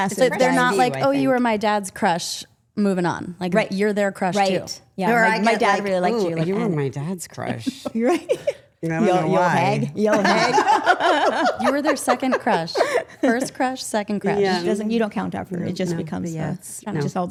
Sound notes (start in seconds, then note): 10.0 group laughing